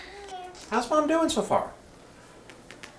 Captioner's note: voiceover